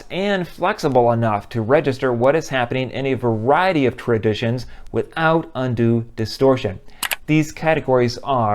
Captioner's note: click